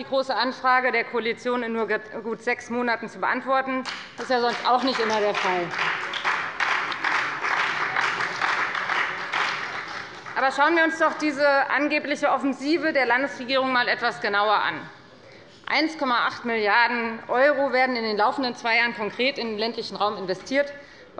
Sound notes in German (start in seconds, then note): 6.1 Beifall bei der FDP und bei Abgeordneten der SPD